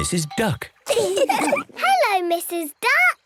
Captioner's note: all laugh